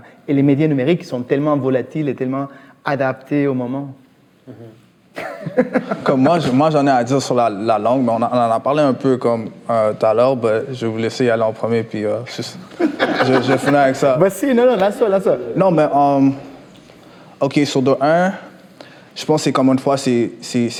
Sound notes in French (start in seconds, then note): 5.1 rires; 12.6 rires